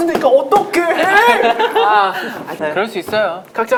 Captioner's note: laughing